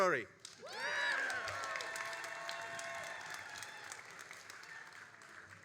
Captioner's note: all applauding and cheering